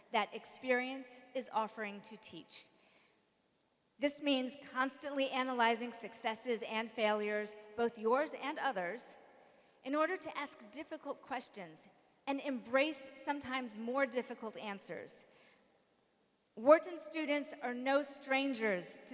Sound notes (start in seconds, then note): none